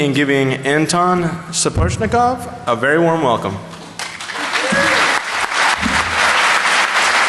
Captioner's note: applause